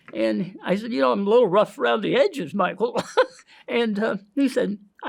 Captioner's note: laughs